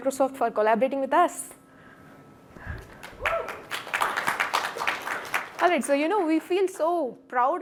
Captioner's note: applause